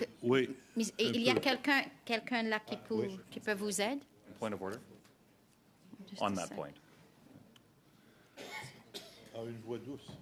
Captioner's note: speaking French